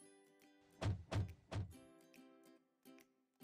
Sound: calming music; thumping

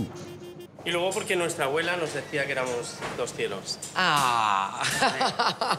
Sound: speaking Spanish; laughs

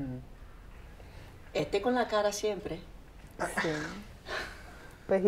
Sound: speaking Spanish

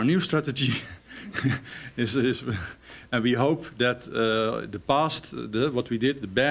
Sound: chuckles

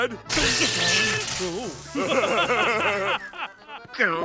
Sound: laughing

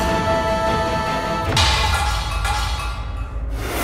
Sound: crashing

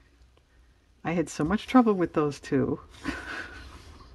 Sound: laughs

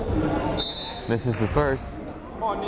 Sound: whistle blows

